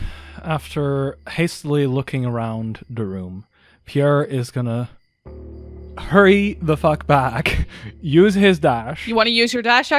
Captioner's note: sighs